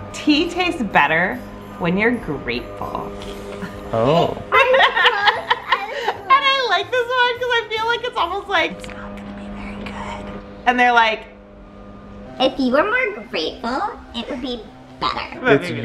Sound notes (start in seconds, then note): 4.5 mom laughing